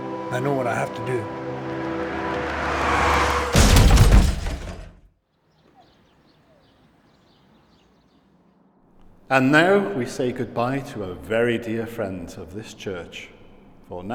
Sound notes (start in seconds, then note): 2.0 crashing; 5.2 birds chirping